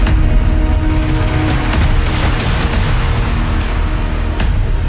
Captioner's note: thudding; fist thudding